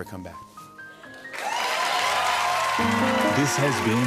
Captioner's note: cheers and applause